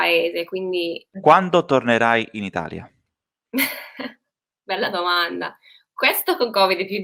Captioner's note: laughs